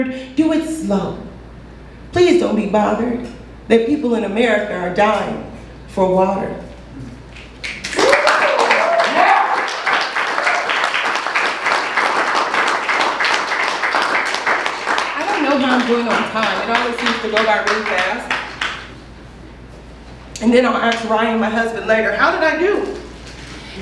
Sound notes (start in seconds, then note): 7.6 applause